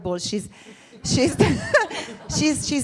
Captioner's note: laughing